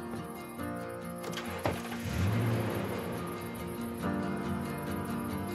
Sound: car door opens, closes; engine starts

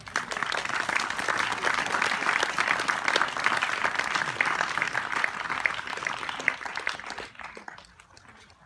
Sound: applause

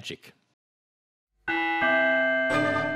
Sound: clock chime

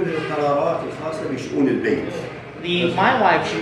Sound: speaks Arabic

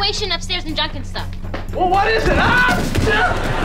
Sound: groaning; screaming

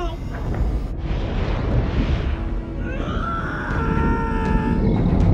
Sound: screaming

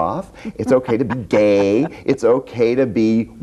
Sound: laughs

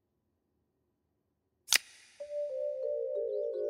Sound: clipping

